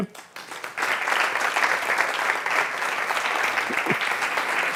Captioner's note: audience applauding